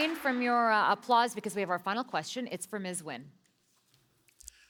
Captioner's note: applause